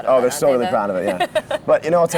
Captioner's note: laughs